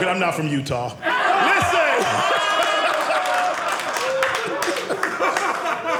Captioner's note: audience laughing